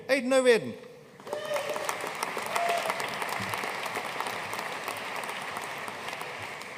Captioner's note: audience cheering and applauding